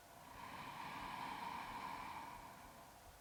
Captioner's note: inhales